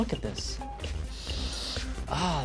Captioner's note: sniffs